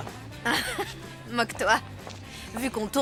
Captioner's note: laughs